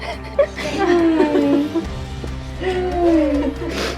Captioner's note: laughs